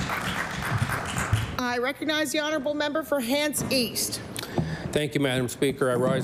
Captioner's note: applause